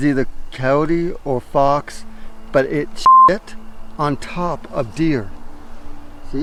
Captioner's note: beep